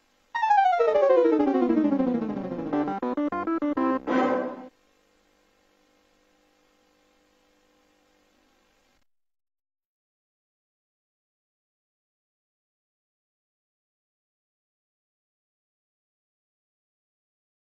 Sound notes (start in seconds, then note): 0.3 32-bit console startup music; 10.1 silence